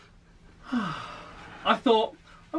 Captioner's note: sighs